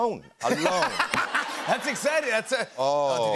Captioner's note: laughter